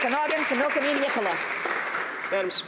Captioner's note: some Applause